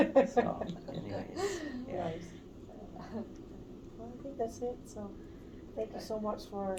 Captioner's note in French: Rires